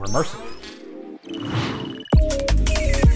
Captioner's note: digital SFX, its like flipping around and going d-d--d-dioi